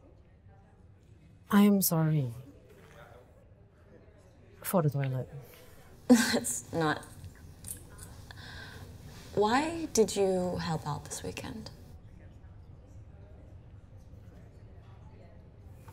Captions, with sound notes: [MALAYSIAN ACCENT] I am sorry... ...for the toilet. It's not... Why did you help out this weekend?